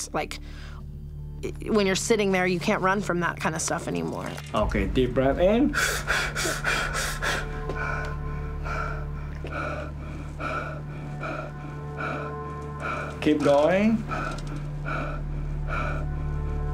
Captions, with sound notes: Like when you're sitting there you can't run from that kind of stuff anymore. - Okay deep breathe in (breathing) (breathing) Keep going. (breathing)